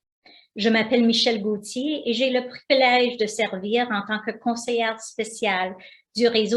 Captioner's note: speaking foreign language